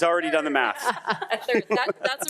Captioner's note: member laughing